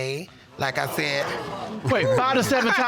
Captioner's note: audience exclaiming